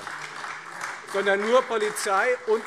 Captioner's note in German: Beifall Freie Demokraten und vereinzelt SPD